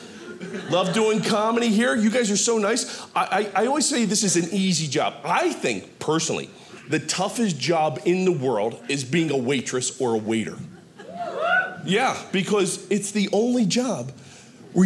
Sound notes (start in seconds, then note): 11.0 people softly cheering